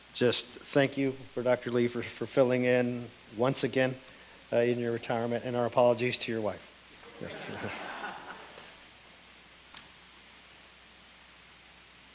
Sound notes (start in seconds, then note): 7.0 audience laughing